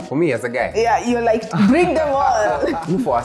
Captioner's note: laughter